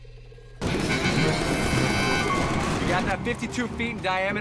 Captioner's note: guns firing